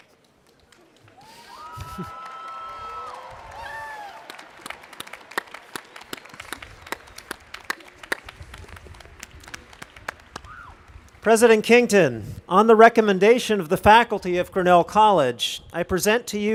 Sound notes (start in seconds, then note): 5.0 applause